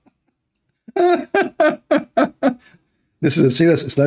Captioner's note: Ketawa